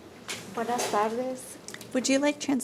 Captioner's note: speaking in foreign language